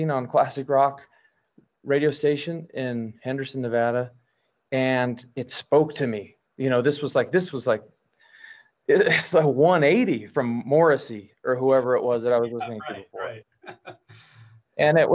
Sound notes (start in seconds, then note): 13.9 laughs